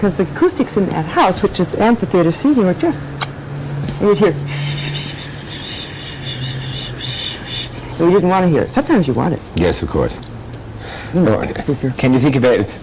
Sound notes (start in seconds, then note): 5.2 imitates rustling